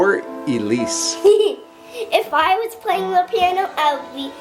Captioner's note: laughs